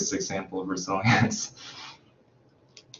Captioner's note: chuckles